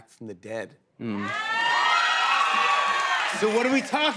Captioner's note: cheers and applause